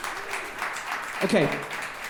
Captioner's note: audience clapping